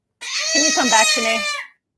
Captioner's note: baby crying